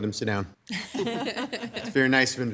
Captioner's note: everyone laughs